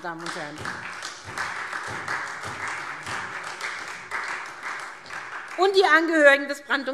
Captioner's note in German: Beifall